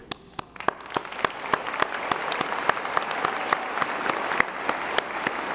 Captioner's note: applause